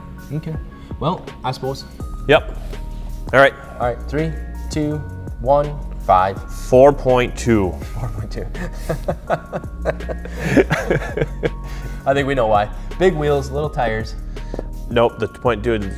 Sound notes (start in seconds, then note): 8.5 laughter